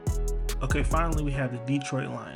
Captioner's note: voiceover